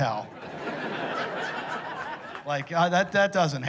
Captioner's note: laughter